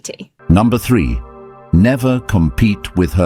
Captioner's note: AI Voice